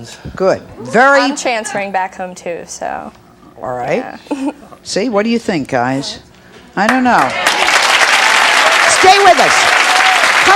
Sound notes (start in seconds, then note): 6.8 audience clapping